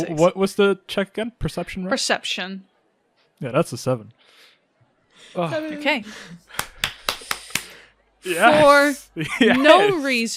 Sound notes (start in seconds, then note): 4.9 sighs; 6.4 claps